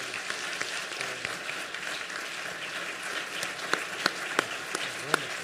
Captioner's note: applause